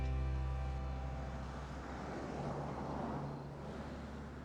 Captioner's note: car driving past